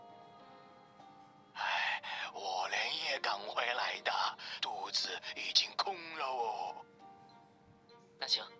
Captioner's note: sigh